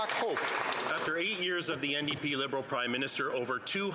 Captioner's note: some Applause